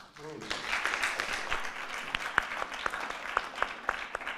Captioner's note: audience clapping